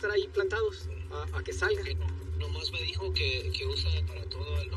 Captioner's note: spking in spanish